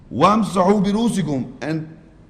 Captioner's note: Arabic